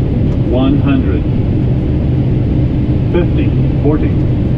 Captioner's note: computer Voice